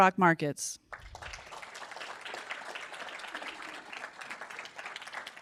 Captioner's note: audience applauding